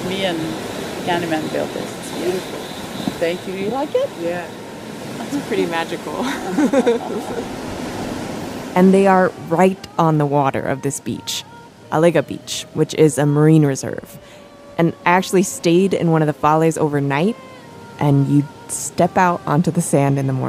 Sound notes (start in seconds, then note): 6.2 laughs